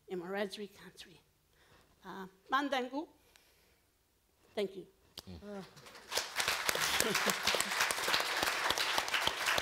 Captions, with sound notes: in Wiradjuri country. (foreign language) Thank you. - All right. (all clapping)